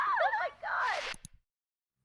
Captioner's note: click